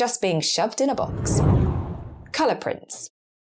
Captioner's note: whooshing air